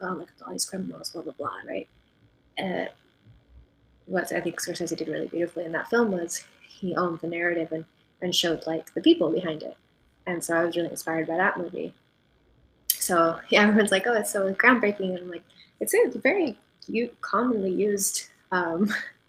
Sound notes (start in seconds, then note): none